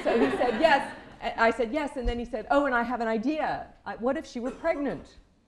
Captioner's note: laughter